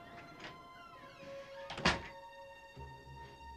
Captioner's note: door closes